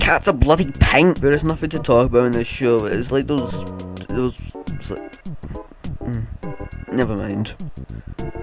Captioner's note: miserable mumbling